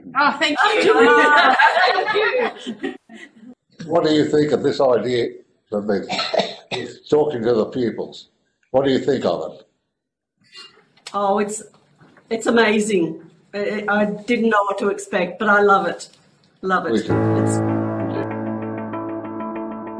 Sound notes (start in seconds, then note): 0.6 pupils laugh; 6.0 coughs; 16.9 soft music